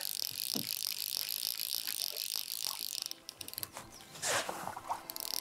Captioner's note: fishing rod whirring